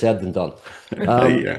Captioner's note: laughs